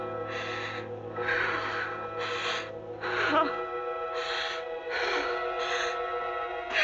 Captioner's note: suspenseful music continues; Janet panting